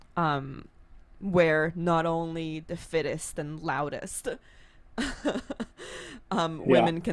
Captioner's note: laughs